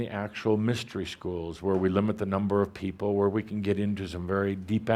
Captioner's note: none